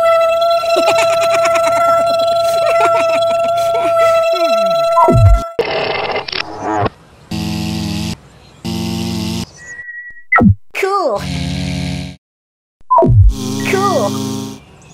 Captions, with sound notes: ha ha ha ha ha ha ha ah [ beep] [ bonk] [ click] [ buzz] [ buzz] [ beep] Cool !! [ buzz] [ beep] Cool !! [ buzz]